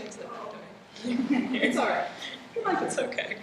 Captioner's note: laughter